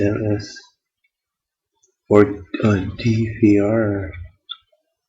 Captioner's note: reading to self